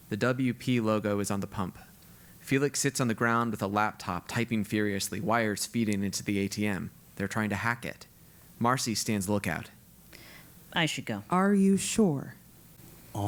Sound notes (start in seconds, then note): none